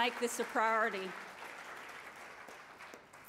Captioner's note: applause